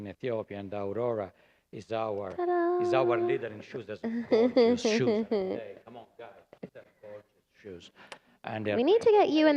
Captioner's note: laughter